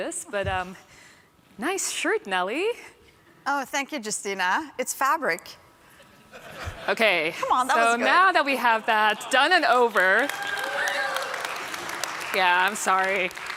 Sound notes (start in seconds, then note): 6.0 laughter; 9.4 applause